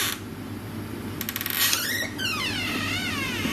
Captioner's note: door creaks